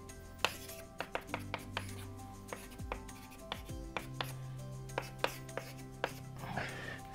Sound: gentle music; chalk scratching on board

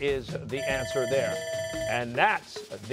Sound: bell rings

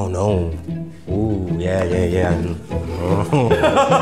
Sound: laughs

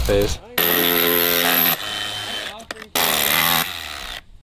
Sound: buzzing

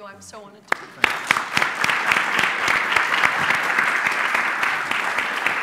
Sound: applause

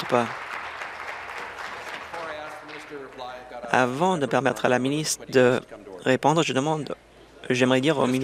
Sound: applause

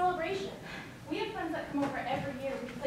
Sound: exhales sharply

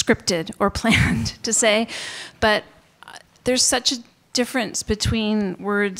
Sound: chuckles

